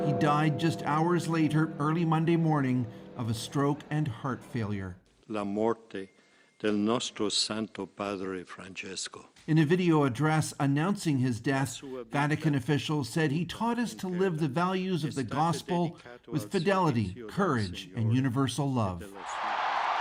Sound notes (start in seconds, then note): 4.8 bells tolling; 9.6 speaking alternate language